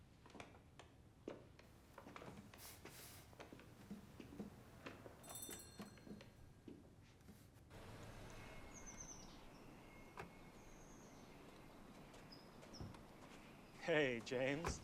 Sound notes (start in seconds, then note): 1.6 footstep; 7.9 bird chirp; 10.0 door open close; 11.4 bird chirp